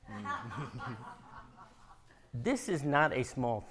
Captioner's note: audience laughing